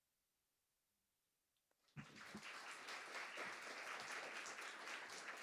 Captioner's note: audience applauding